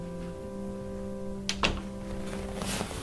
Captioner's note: closing the door